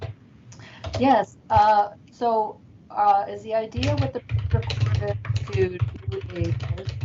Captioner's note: audio blurs